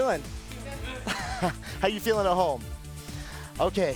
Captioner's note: laughs